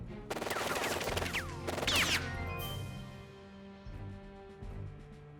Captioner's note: guns firing; dramatic music